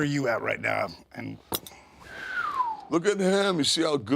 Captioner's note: Sean whistles